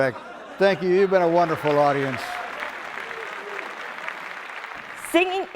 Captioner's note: clapping